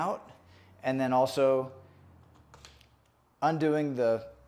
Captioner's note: buckles snapping